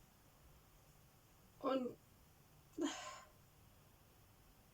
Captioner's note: sigh